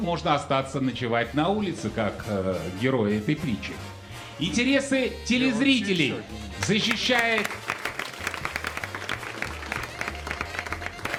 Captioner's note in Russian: аплодисменты